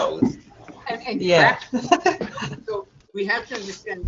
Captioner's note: laughs